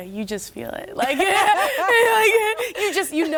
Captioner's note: laughter